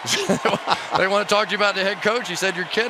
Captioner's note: laughter